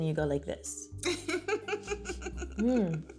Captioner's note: laughing